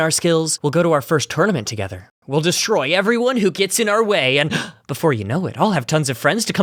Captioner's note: gasp